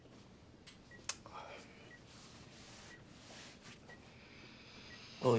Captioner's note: Drew sighs